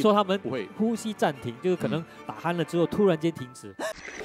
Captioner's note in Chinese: 呼吸